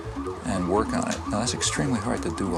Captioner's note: sirens wailing